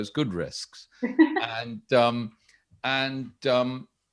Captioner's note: laughs